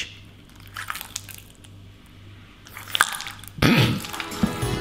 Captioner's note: butter squelching; melodic music